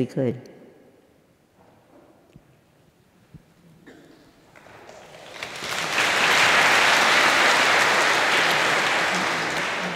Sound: applause

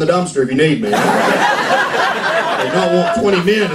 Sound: laughter

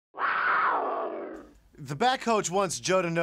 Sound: growls

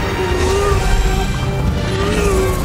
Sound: grunting

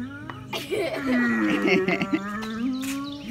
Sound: giggling

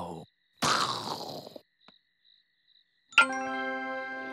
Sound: makes explosion noise

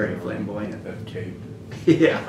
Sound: laughter

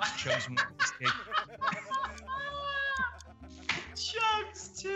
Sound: laugh

